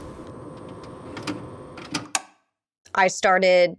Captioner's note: tape deck clicking